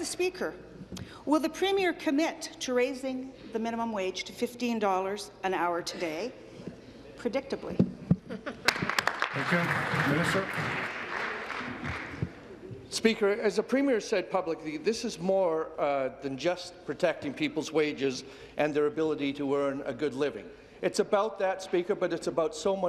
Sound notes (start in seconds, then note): 11.9 applause